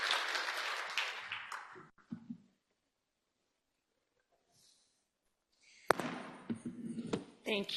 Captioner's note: applause